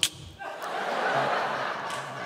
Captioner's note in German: Lachen